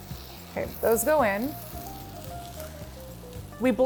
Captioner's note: pan sizzling